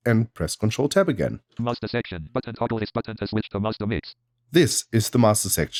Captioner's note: automated voice